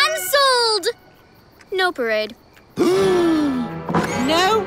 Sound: gasping

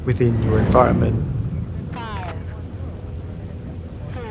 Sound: woman's Voice

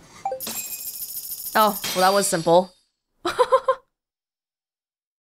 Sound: chuckles

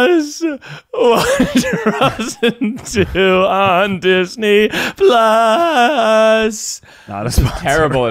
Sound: laughing

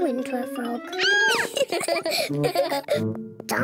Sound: squeals; both giggle

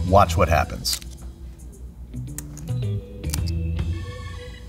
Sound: chips crunching

